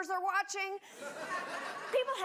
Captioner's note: audience laughs